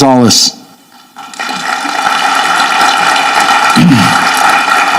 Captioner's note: audience clapping